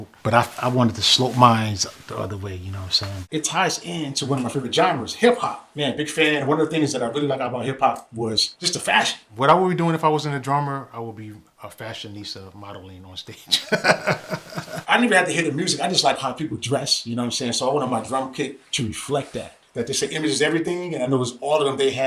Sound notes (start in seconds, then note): 13.4 laughs